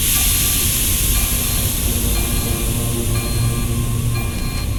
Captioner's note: air hissing; alarm blaring; tense music